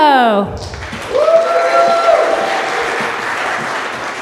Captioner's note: audience applause